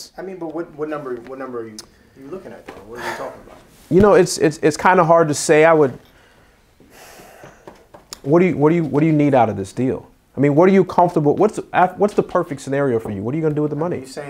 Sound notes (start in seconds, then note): 6.8 sighs